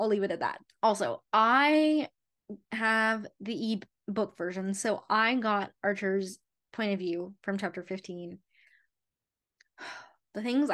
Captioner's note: sigh